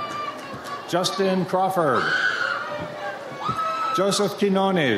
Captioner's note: audience member screams